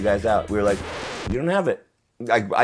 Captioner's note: record scratching